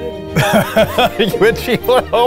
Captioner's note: both laughing